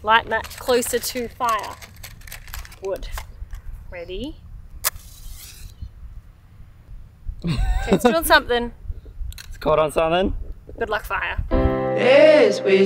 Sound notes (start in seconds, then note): 4.8 strikes match; 7.4 chuckles; 11.5 soft pop music